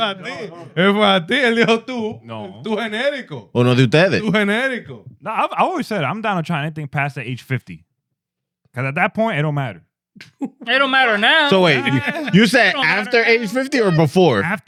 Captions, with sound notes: (Speaking In Foreign Language) A little too, too analytical. (Speaking In Foreign Language) Too analytical. No, I've always said I'm down to trying anything past the age 50. Cause at that point, it don't matter. It don't matter now. So wait, you said after age 50 or before?